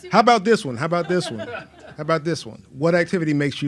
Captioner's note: laughs